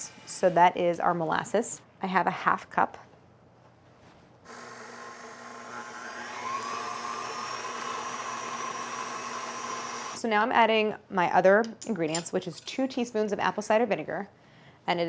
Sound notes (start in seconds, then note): 7.3 mixer sounds